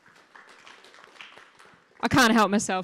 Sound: audience claps

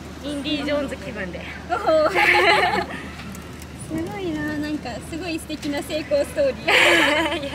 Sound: laughs

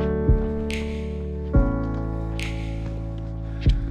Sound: footsteps crunching

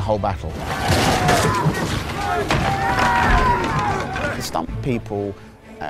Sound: shouts and cries

